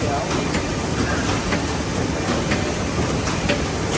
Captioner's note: machine whirring